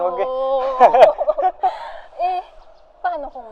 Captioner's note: laughs